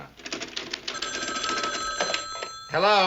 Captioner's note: phone ringing